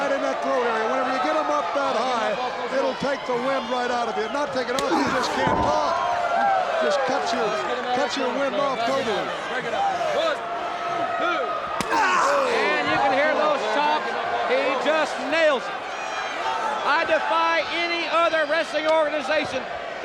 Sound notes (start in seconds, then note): 11.8 chop striking; 12.0 Sting exclaiming